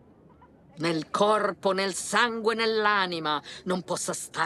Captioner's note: speaking in tongues